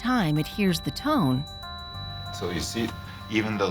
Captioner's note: ringing